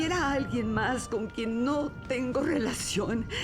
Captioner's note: chuckles